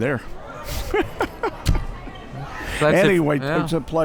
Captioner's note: laughing